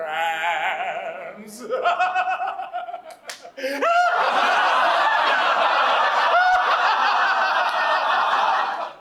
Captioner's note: the mcado laughs, everyone follows suit